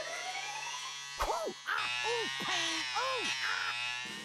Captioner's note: buzzing; Daffy groaning